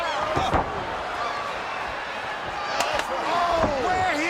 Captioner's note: crowd yelling